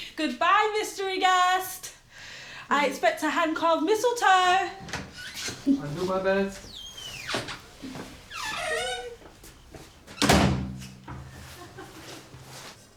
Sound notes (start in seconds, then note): 6.9 door squeaking; 10.0 door thudding